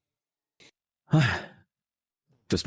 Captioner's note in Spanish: Suspiro